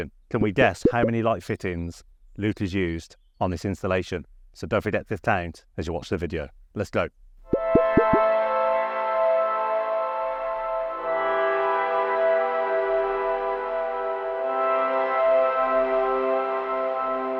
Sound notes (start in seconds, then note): 7.5 bubbles popping; 9.3 upbeat music